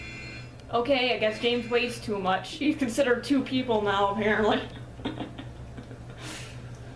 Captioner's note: laughs